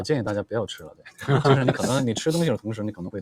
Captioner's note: laughs